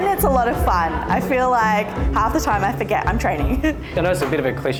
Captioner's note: laughs